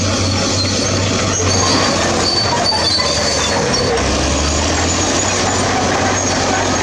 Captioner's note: bulldozer Turbo Sound